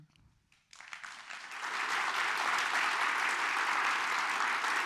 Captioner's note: audience applauds